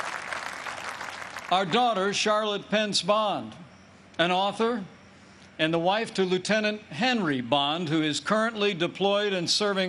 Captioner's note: applause